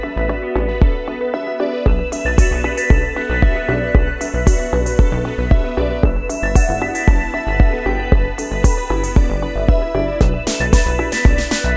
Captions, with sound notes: I put trigger selector to LF (Low frequency) the waveform selector to be sine position